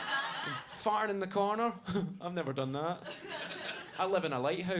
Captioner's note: audience laughs; laughs